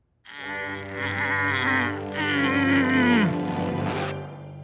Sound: Gandhi grunting

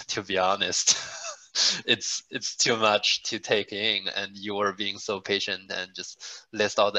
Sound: laugh

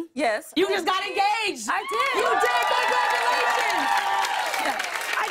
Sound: cheers and applause

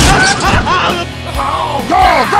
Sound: dying guy screaming; Heavy's voice

